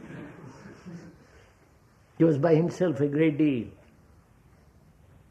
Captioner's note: laughter